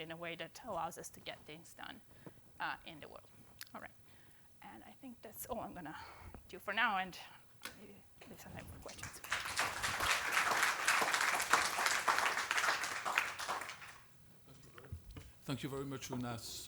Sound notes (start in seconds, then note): 8.9 applause